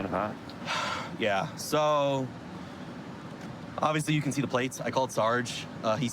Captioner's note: sighs